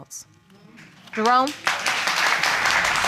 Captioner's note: applause